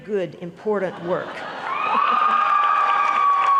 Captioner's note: applause